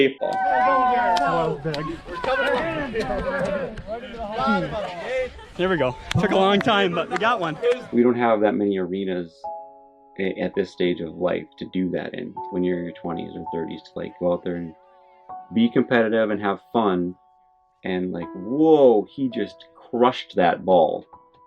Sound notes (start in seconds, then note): 0.0 crowd cheering; 2.8 crowd chattering